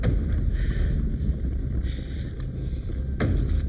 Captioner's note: ground rumbling; suspenseful music; Gina panting